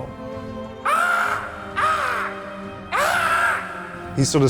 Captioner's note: imitates cawing